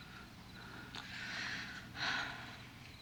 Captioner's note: sighs